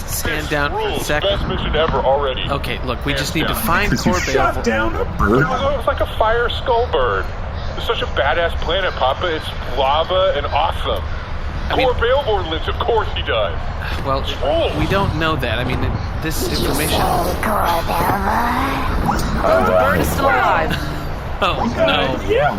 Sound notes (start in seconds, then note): 14.4 hissing